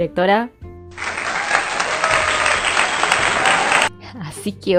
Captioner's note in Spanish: aplausos